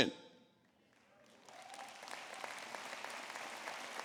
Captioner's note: applause